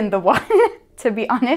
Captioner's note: laughing